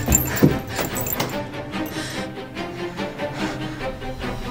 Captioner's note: chains rattling